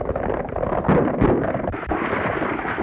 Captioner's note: gunshots